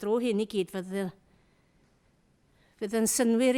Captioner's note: none